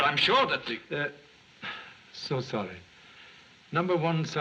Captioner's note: sigh